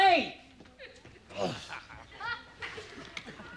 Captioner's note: sighs